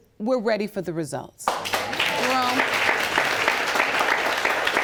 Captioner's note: applause